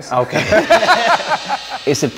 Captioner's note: both laughing